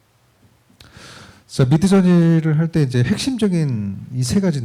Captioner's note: speaking korean